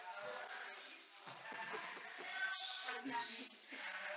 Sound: chuckles

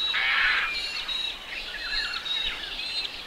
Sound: birds calls

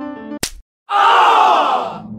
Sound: loud snap; small crowd; irate

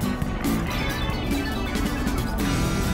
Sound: keyboarding intensifies

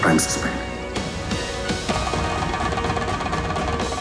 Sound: knocking

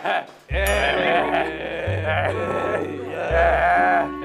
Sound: boo

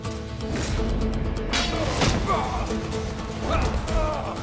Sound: Müzik - Hareketli; Kılıç sesi

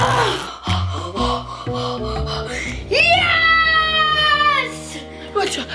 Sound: breathes heavily

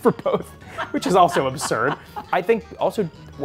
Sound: both laughs

